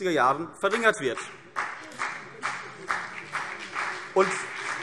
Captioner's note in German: Beifall CDU und BÜNDNIS 90/DIE GRÜNEN